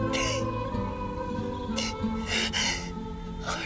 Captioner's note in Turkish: Ağlıyor